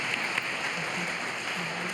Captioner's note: applause